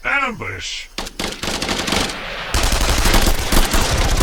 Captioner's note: guns blasting